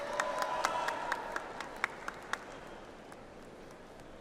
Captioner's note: audience applauds